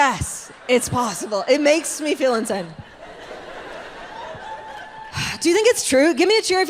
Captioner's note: audience laughs